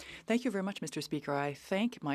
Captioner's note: speaking French